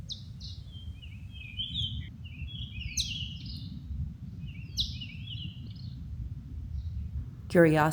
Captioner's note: birds chirping